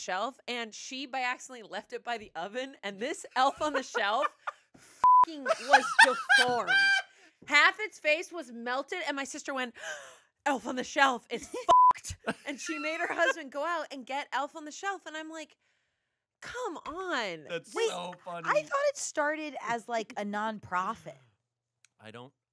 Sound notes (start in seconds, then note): 5.0 beep; 5.4 everyone laughs; 10.1 gasps; 11.7 beep